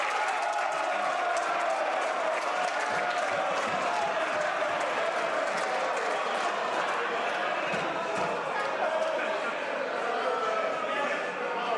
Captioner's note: some Applause